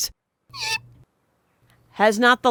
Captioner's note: Barak squeaks